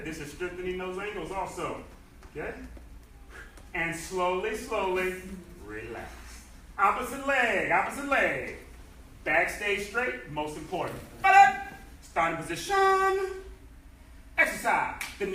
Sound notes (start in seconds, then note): 11.3 enthusiastic shouting